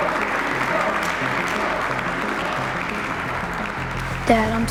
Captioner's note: hands smacking